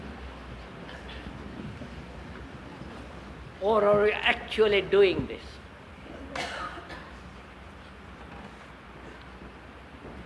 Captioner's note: laughter